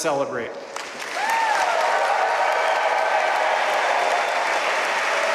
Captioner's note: audience cheering and applauding